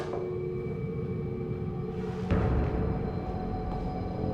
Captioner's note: creaking